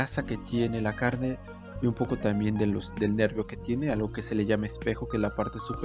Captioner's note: in Spanish